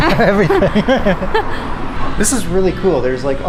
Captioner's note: laughs